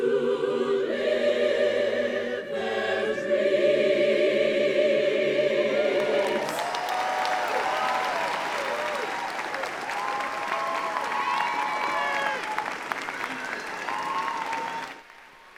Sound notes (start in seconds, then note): 12.4 applause